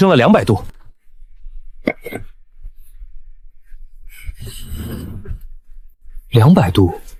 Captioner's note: cough cough